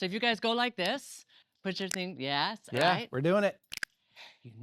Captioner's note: snaps fingers